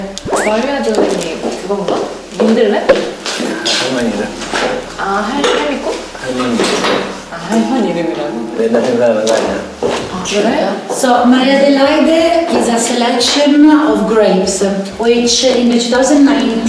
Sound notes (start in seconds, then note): 9.8 surprised